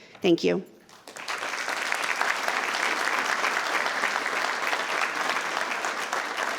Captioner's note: attendees and members applauding